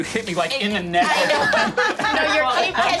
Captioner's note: group laughing